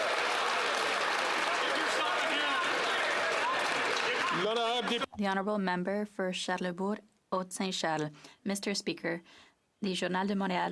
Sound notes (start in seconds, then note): 5.6 some Applause